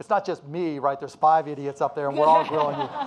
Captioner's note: audience laughing